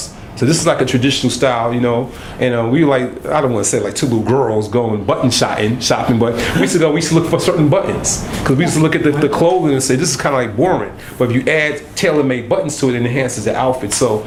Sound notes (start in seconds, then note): 6.4 laughter